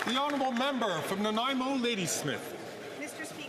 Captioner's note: some Applause